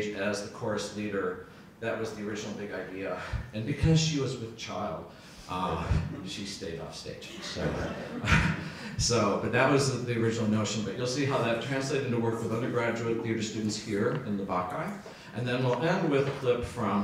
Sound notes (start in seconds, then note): 7.3 audience laughs